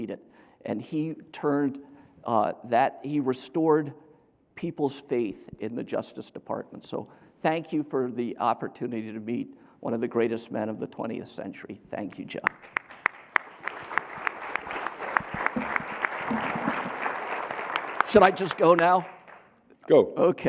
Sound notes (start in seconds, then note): 15.1 applause